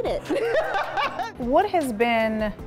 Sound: laughing

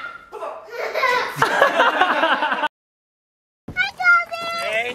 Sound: all laughing

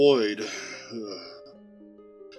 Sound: Liam audibly shudders

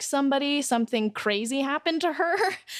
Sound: laughs

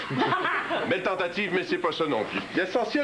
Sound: Rires

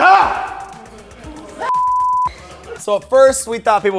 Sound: yelling; beep

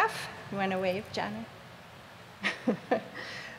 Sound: laughs

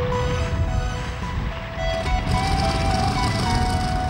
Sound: propellor whirring

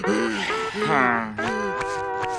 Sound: sighing

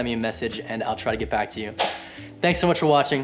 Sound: claps

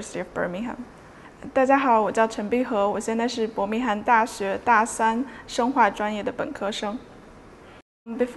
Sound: repeated in Mandarin

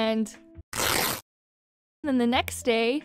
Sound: riip

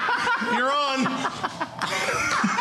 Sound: laughter

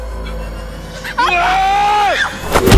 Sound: screams

